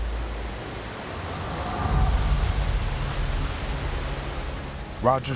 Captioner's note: water rushing